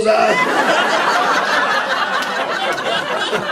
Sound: laughter

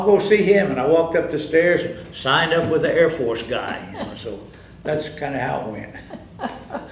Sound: laughter

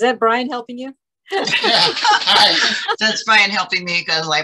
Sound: laugh

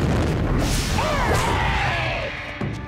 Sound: squawking

